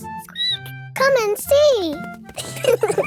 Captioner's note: squeaks; both laughing